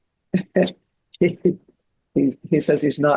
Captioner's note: laughs